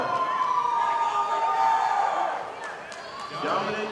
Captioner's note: audience applauding